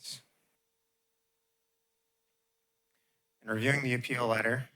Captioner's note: pause